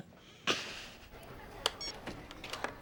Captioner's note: laughing; beeps